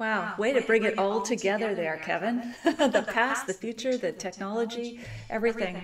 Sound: laughs

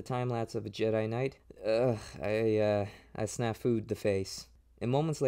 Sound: groan

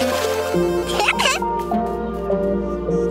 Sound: giggles

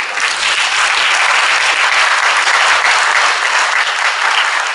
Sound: crowd applause

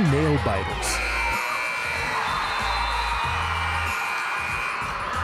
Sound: buzzer sounding

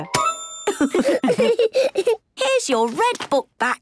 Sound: laughs

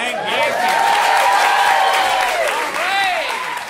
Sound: cheers and applause

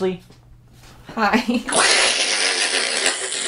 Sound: laughs

